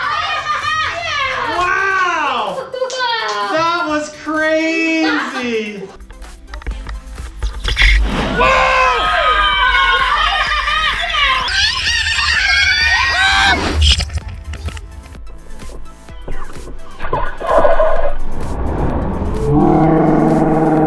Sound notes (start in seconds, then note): 8.0 reverberating thudding; 8.0 yelling; 10.7 high-pitched rewinding; 18.8 reverberating thudding; 18.8 yelling